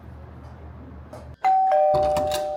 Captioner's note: ding-dong